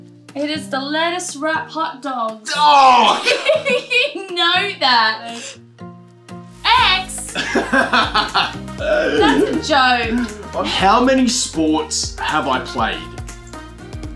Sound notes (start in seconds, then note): 7.1 laughter